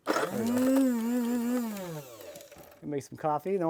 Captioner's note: grinder whirring